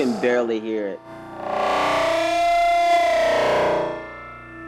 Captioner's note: man moaning loudly, layered